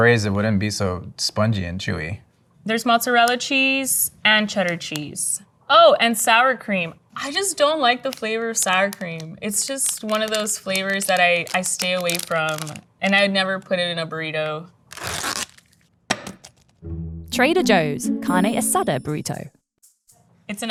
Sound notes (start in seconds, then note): 14.8 wrapper ripping; 15.0 burrito thumping